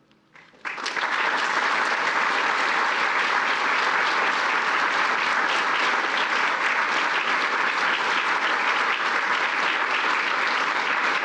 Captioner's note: applause